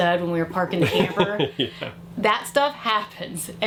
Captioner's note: laughs